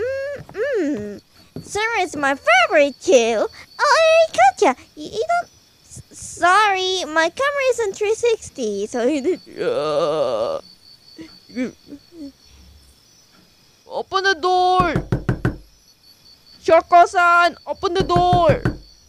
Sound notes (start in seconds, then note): 14.8 knock door